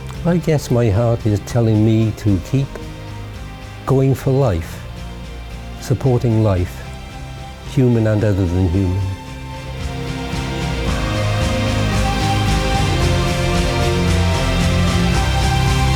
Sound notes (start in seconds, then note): none